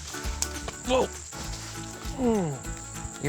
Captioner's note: grunts